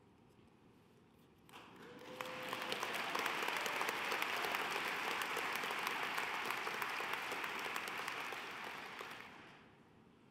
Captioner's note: applause